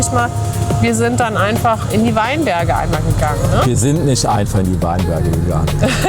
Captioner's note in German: gelächter